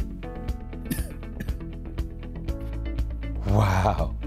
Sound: cough

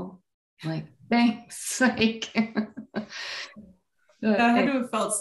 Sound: laughing

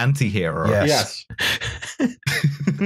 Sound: laughter

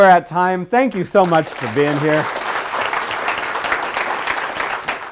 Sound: audience applauds

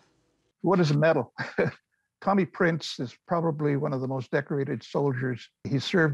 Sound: man chuckling

